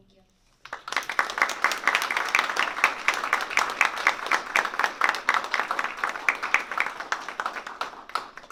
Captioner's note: applause